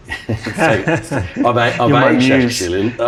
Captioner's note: laughing